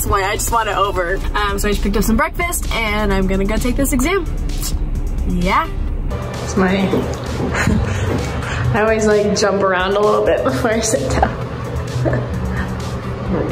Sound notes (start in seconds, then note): 7.3 chuckles; 11.8 chuckles